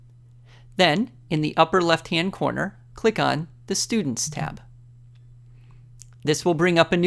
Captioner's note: click